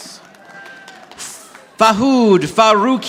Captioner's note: audience applauding